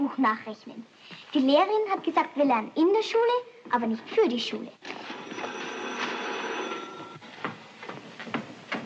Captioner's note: telephone Rings